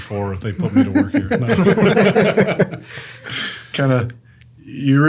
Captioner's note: group laughs